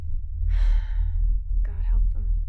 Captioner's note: sighing